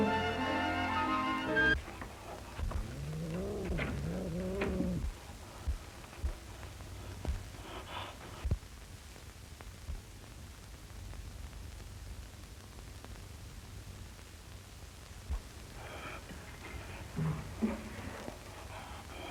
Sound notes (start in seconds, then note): 6.3 purring; 8.2 heart beat